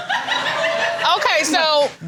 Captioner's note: audience laughing